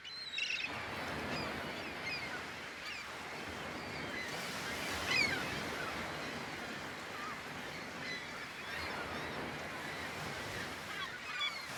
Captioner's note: seagulls screaming